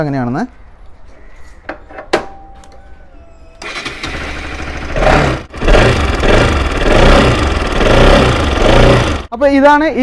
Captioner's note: vehicle's noise